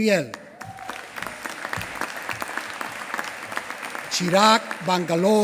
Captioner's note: applause